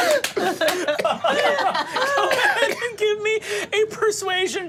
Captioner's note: laughs